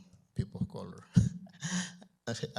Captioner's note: chuckles